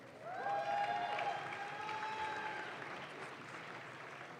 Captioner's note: audience claps